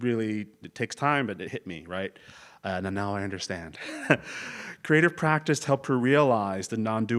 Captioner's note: laugh